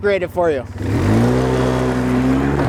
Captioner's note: engine Revs